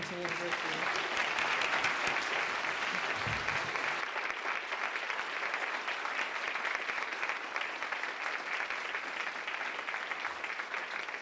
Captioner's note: applause